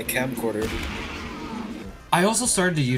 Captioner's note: distant explosions